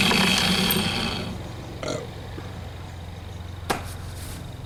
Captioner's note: belching